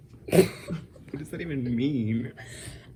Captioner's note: belching